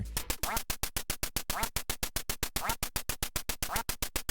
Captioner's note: ducks quack